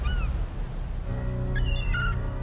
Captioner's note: ominous music; gulls squawking; low ominous music